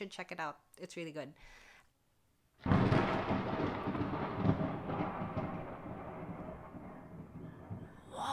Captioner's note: sudden lighting and thunder in the distance